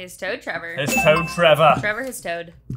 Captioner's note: bell dings